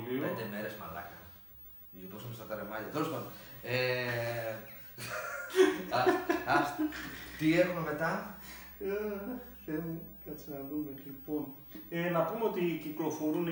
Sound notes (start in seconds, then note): 4.8 both Laughing